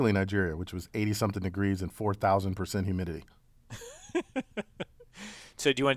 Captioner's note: laugh